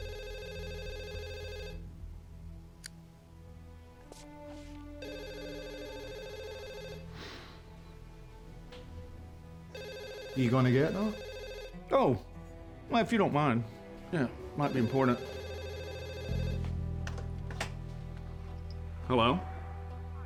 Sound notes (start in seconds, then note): 0.3 phone rings; 9.8 scottish accent; 14.6 phone rings